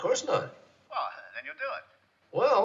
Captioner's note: on phone